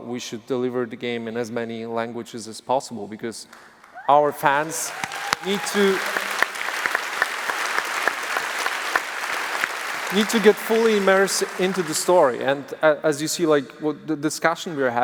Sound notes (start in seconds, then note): 5.8 applause